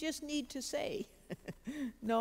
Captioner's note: giggles